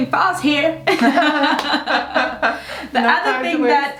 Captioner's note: both laughing